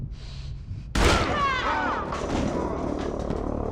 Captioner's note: gunshot